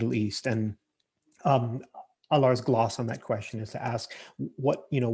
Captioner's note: murmurs